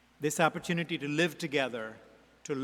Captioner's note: none